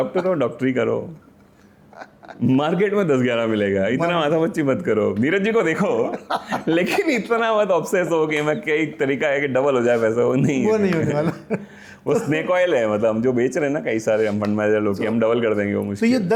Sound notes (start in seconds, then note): 6.0 laughter